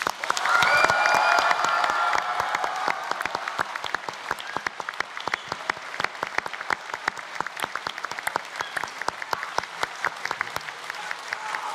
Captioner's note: cheers and Applause